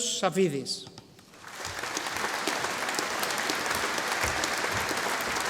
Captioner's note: audience applauding